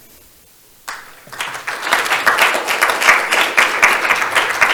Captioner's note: crowd applauding